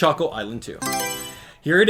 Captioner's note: Mario Selection Sound